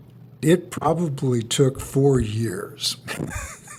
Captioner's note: laughs